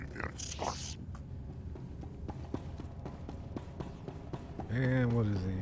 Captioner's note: gunshots